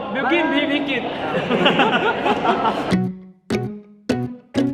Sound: laughs

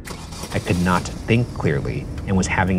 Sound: car engine starting

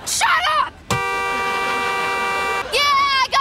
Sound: horn blowing

